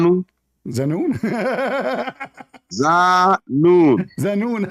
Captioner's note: Ketawa